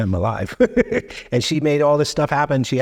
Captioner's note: chuckling